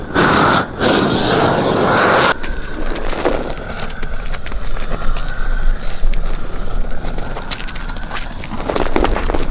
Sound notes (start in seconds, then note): 0.1 air whooshes against plastic; 4.4 plastic roll squeaks